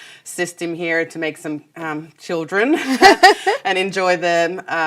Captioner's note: laughs